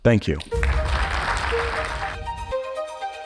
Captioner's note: audience applauds